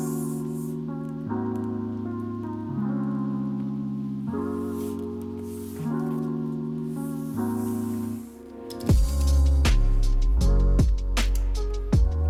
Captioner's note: unboxing noises